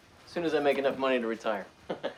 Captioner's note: laughs